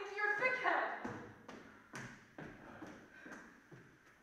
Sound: feet stomping

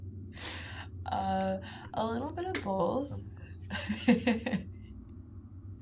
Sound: laughs

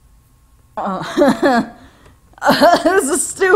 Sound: laughs

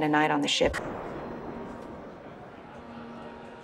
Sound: chattering

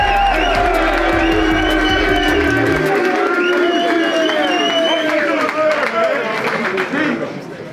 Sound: cheering continues; team claps

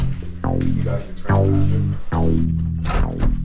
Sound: deep man voice

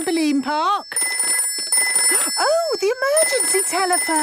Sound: phone ringing

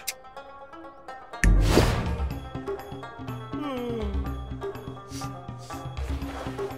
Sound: crying

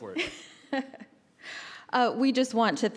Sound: laughs

